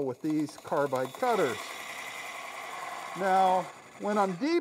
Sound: wood lathe chattering

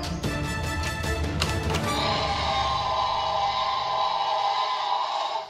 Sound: tyrannosaurus Rex Roars!

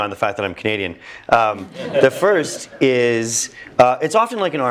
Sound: laugh

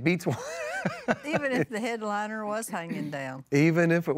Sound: laughs

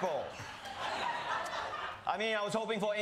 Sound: audience laughing

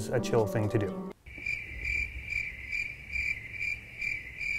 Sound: chirping

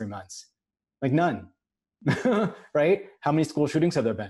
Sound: laughs

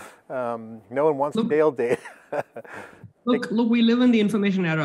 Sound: giggles

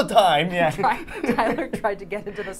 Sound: both laughing

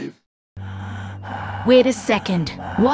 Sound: breathing

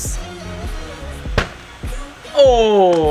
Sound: ball hits board

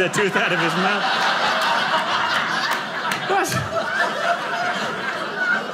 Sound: audience laughing

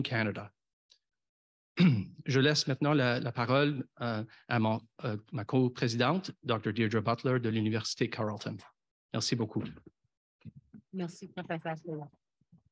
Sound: foreign language 00:05:53

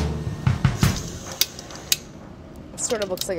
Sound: uptempo music; mixer whirring

